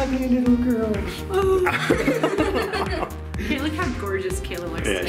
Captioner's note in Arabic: كل يضحك